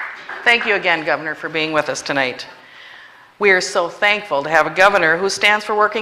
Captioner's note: applause